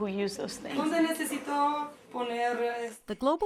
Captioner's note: speaking spanish